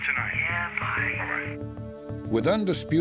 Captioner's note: on phone